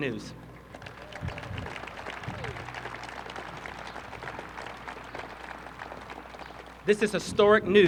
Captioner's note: applause